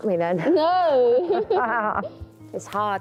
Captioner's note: laughs